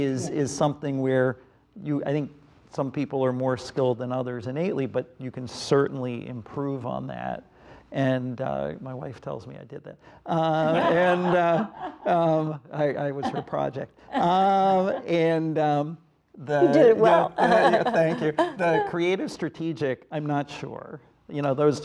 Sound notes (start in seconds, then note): 10.6 panel members laugh; 16.6 laughs